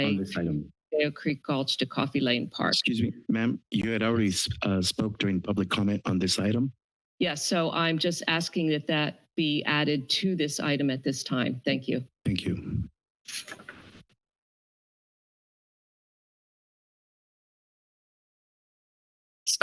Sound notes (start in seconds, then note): 12.3 microphone static noise; 14.3 silence